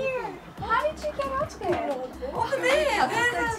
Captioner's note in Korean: 웅성 웅성